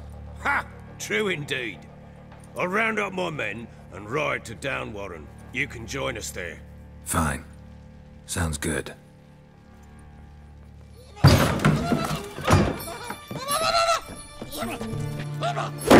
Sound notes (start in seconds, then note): 11.2 loud thud; 15.7 crash